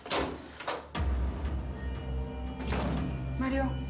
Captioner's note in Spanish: sonido al abrir la puerta